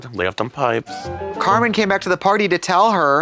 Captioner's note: bright chime